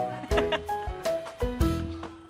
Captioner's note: laughs